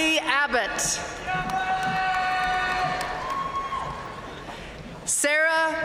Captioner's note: audience cheering and applauding